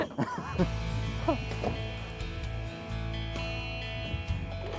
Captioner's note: laughing together